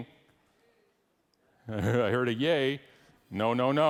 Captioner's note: laughs